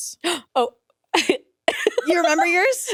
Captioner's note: laughs